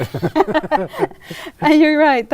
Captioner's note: laughing